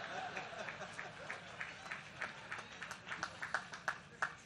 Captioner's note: laughter